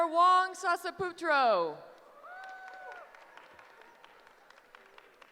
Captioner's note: cheering